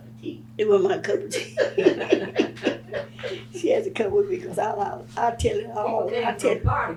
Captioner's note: laughter